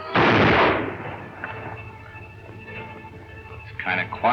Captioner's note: gun firing